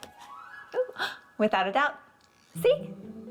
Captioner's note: gasps